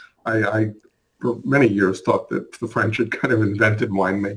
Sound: chuckles

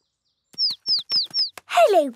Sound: chirping

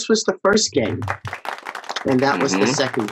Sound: crowd applauds

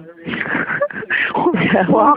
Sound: laughing

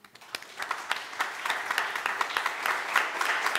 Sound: applauding

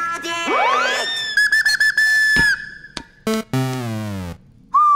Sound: chirping

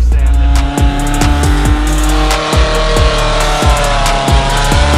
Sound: engine revving

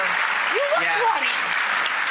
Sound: applause from audience

